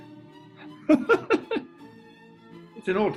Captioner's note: giggling